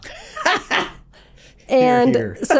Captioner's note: laughing